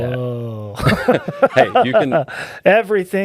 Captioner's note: laughing